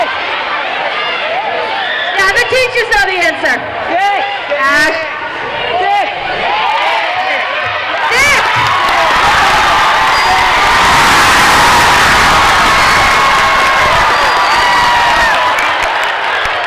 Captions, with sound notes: Now the teachers know the answer. Ash. - Thick. - Thick! (dinging) (crowd cheering)